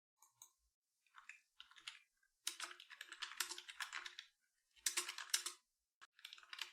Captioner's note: typing sounds